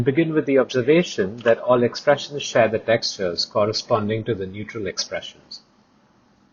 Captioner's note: click